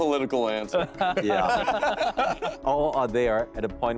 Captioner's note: laughing